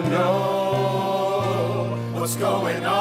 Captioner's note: audience laughs